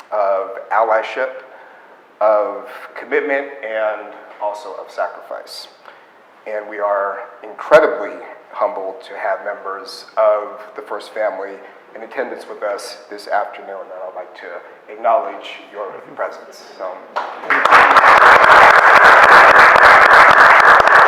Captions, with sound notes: of allyship, of commitment, and also of sacrifice. And we are incredibly humbled to have members of the First family in attendance with us this afternoon. And I'd like to acknowledge your presence. (audience applauds)